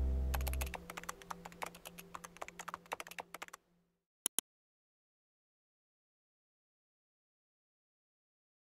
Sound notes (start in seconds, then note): 0.3 keyboard typing; 4.2 mouse click